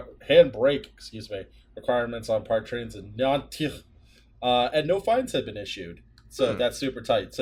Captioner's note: speaking French in a Klingon accent